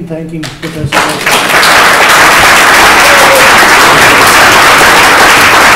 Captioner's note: applause